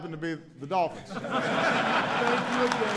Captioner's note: laughter and applause